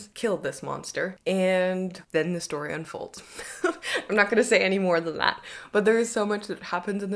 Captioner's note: chuckles